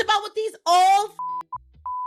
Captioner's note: beeping